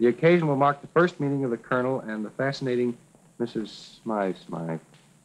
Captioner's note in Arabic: none